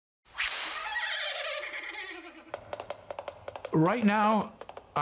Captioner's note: horse neighing